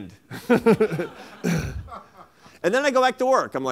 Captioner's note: laughter